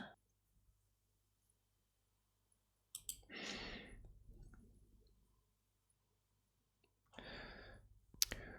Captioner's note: silence